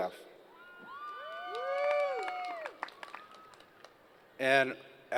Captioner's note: applause